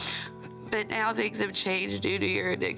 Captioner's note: sniffs